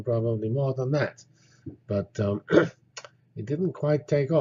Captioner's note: cough